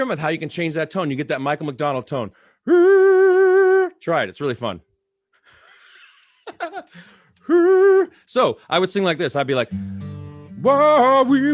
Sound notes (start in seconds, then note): 5.5 laughter; 9.6 singing with guitar